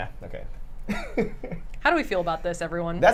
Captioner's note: laughs